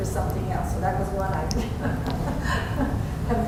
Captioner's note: laughter